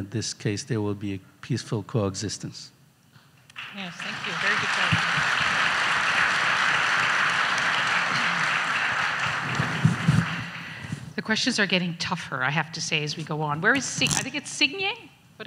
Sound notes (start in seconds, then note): 5.0 audience applauds